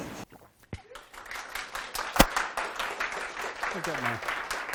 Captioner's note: applause